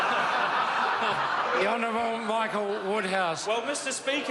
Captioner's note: members laugh